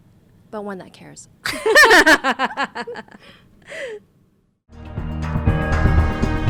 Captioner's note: both laughs